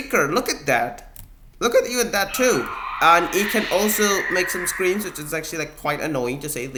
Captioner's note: shrieks play in background